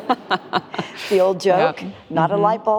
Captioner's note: laughing